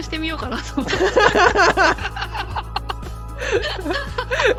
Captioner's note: laughter